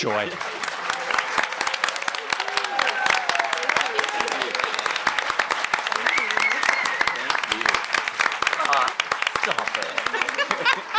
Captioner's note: applause